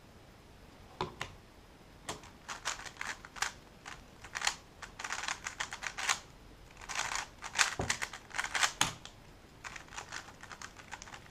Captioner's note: cube noises